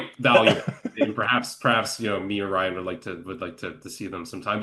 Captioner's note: laughs